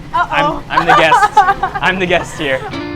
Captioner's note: laughs